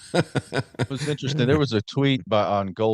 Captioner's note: laughter